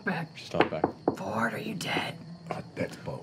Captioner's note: whispers